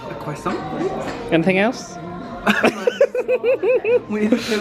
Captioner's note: laughs